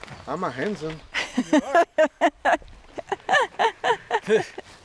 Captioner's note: laughing